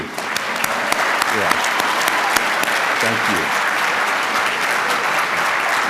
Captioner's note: applause